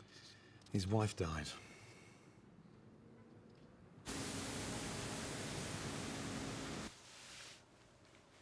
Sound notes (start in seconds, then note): 4.1 engine rumbling